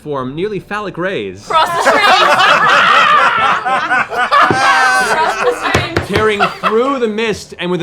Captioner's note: laughter